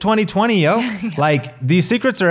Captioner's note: laughs